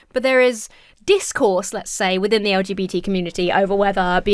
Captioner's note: none